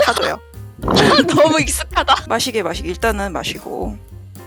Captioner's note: laugh